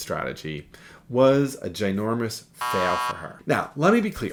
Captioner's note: X beeps